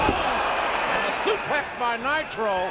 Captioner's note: bodies thud; audience groans